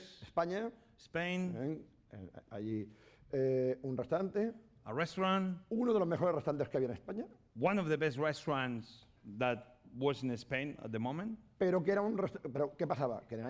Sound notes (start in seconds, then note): 0.7 speaking spanish; 3.4 speaking spanish; 6.3 speaking spanish; 12.4 speaking spanish